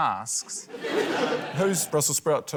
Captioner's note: laughter